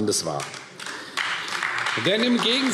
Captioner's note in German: Beifall AfD